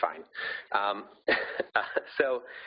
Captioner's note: laughing